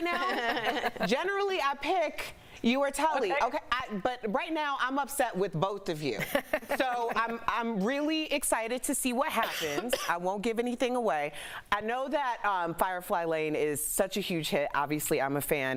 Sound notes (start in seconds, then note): 3.3 laughter